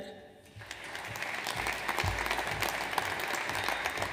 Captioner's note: audience applauds